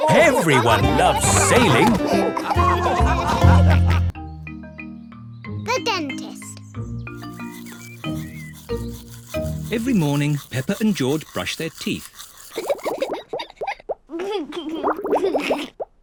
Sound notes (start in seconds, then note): 2.8 all laughing; 12.5 giggles